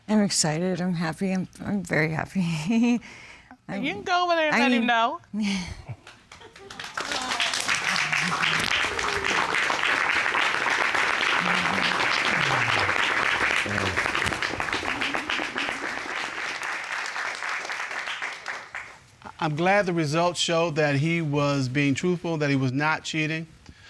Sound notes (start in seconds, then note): 5.5 chuckles